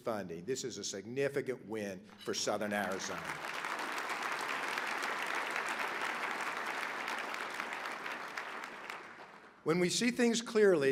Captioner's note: applause